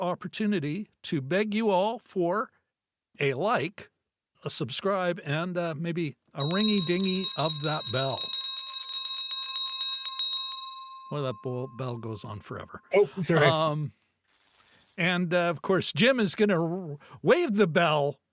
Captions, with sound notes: opportunity to beg you all for a like, a subscribe and maybe a ringy dingy of that bell. (bell ringing) Well, that bell goes on forever. And of course, Jim is gonna wave the bell